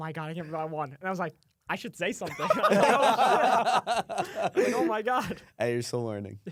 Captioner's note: laughs